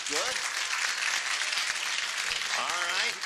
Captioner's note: applause